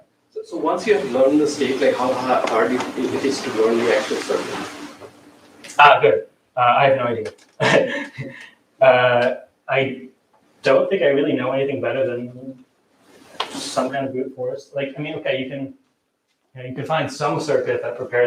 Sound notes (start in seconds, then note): 7.6 laughs